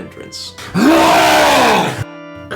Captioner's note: long wookie roar